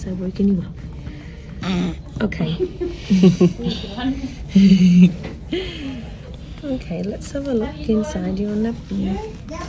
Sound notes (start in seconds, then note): 1.8 baby farts; 2.5 laughs